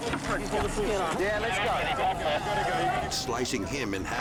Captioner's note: people shouting; person talking over radio